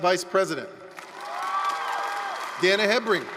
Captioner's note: applause, cheering